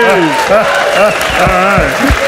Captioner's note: audience cheers and applauds